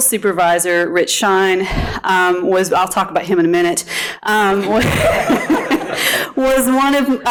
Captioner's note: laughing